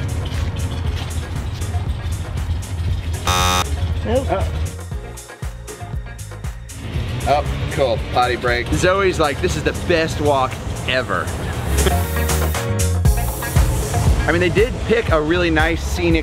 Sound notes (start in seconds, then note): 0.2 upbeat music; 3.2 buzzer; 11.7 upbeat music